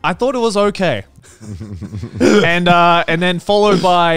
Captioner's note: giggling